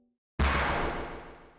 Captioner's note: impact